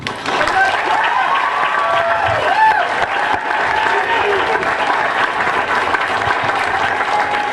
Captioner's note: applause and cheering